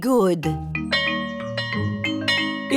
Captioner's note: bell chimes